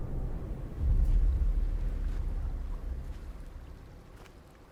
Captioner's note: footsteps thudding